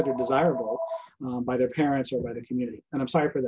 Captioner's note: phone ringing